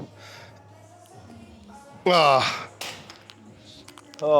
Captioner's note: grunts